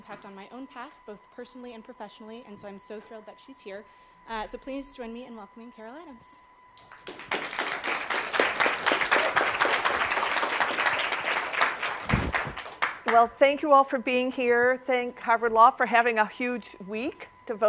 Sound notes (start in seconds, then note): 6.8 applause